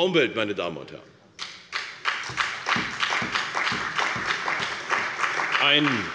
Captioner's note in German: Beifall bei der CDU und dem BÜNDNIS 90/DIE GRÜNEN